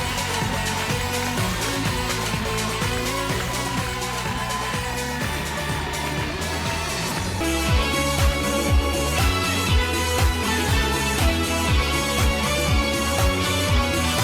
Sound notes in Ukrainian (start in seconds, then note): 0.2 оплески